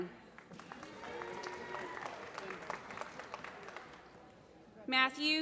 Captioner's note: applause